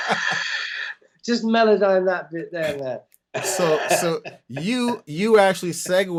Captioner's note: laughter